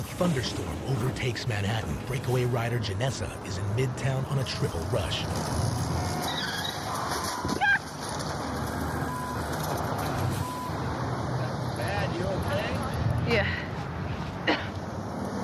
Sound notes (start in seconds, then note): 6.1 horn honks, tires screech, thud; 14.4 coughs